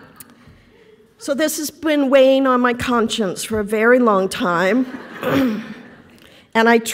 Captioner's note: laughter; laughter